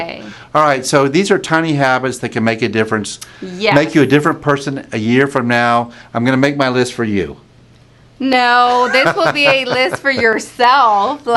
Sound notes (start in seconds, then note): 8.6 laughs